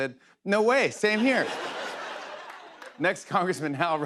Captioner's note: laughter